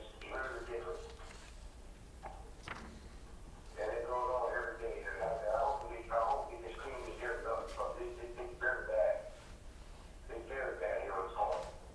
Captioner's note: audio recording